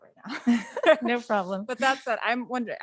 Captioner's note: laughing